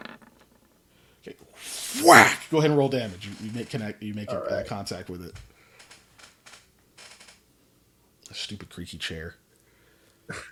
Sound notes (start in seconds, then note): 0.0 dice roll; 6.9 creeky noise